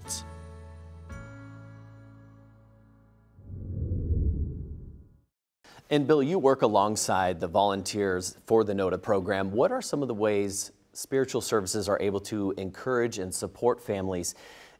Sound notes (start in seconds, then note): 0.0 soothing music; 3.4 air swooshing